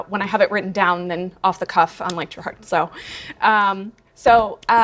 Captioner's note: murmurs